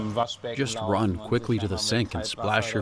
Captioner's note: through translator